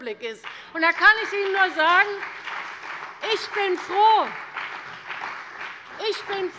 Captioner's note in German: Beifall bei der CDU und dem BÜNDNIS 90/DIE GRÜNEN